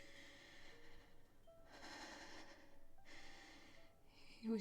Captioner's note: Grace continues breathing heavily; soft haunting piano music continues